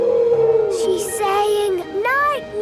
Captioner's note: whale calling